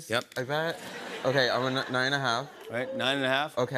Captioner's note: laughter